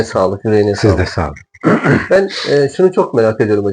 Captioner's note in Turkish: boğazını temizler